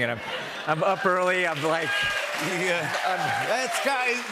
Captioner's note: cheers and applause